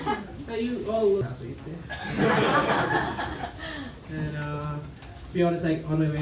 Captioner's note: laughter